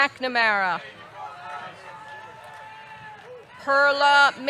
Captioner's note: audience cheering